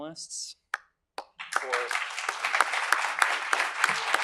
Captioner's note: applause